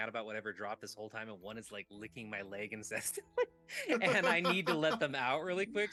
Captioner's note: laughing